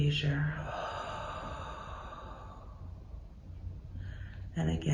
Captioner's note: exhales